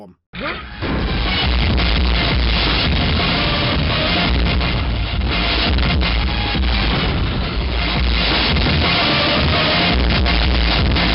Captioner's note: indescribable sounds of pure pain and agony